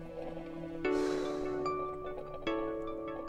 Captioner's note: Megan sighing; gentle music